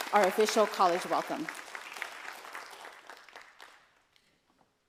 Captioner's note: applause